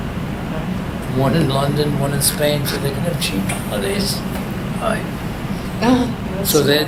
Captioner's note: laughs